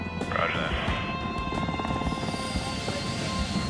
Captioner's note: man Over Radio